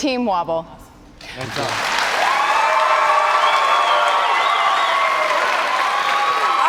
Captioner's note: cheers and applause